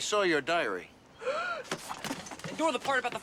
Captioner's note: gasps